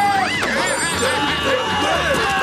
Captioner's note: screaming